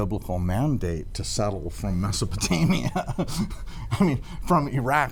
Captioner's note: laughs